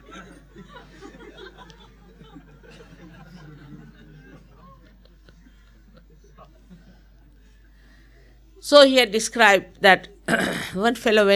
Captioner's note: laughter